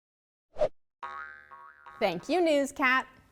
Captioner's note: globe boings